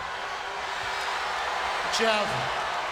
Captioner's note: audience cheering